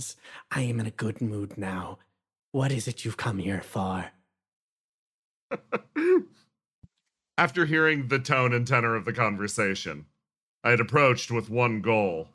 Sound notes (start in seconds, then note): 5.5 laugh